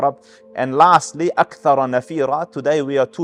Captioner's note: Arabic